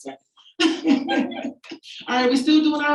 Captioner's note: audience laughing